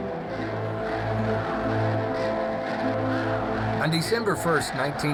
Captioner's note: crowds chanting